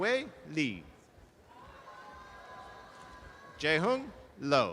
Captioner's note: audience applause